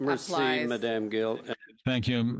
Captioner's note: speaking French